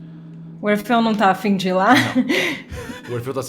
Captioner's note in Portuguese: risada